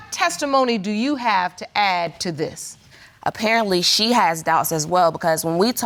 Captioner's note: none